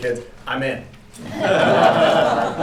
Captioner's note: laughter